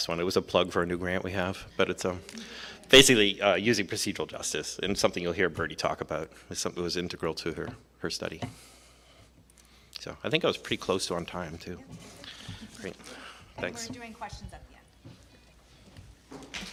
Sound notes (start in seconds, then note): 2.4 crowd chuckles